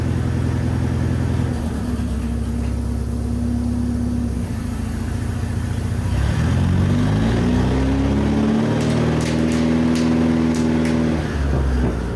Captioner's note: engine noise